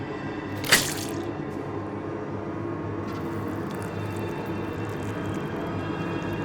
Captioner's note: blood squelching; shears rasping